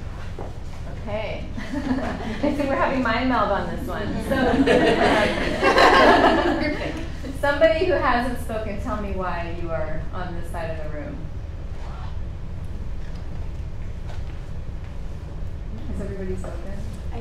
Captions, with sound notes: Okay. (chuckling) I see we're having mind meld on this one. (participants laughing) So, somebody who hasn't spoken tell me why you are on this side of the room. Has everybody spoken?